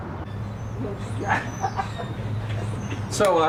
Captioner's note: laughing